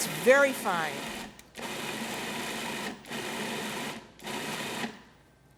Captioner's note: food processor buzzing